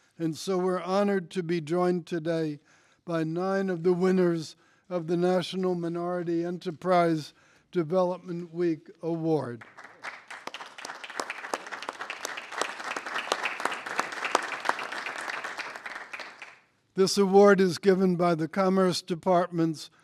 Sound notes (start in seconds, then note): 9.5 applause